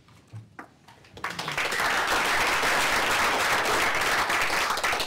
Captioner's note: applause